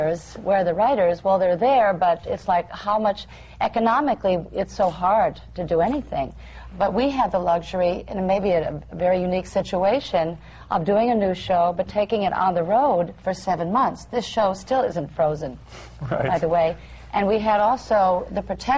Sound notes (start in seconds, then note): 16.0 laughter